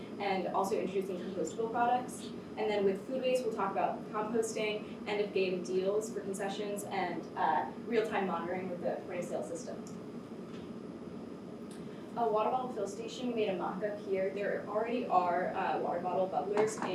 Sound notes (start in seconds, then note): 10.0 air conditioner hums